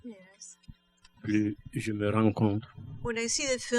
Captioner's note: speaking french